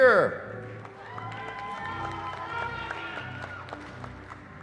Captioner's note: cheering